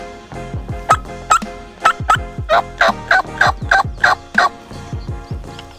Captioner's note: turkey call clucking